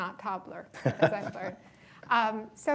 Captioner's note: laughs